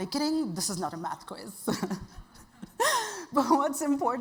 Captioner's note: chuckles